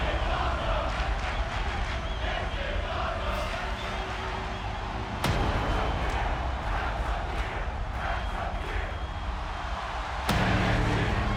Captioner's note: fans chanting